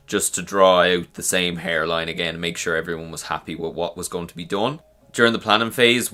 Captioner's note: none